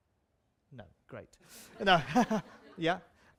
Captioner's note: laughter